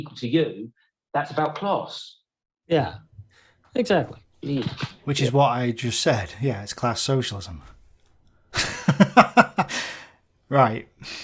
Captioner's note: laughs